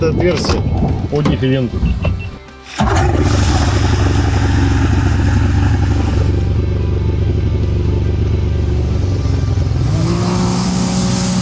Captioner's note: engine sounds